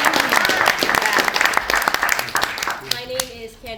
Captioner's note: applause